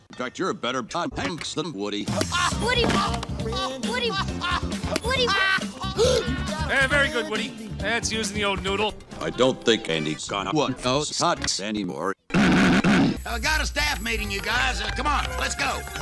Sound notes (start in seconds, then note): 5.9 gasp; 12.4 coughs suggestively